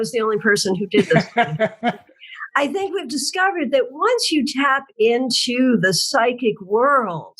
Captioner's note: laugh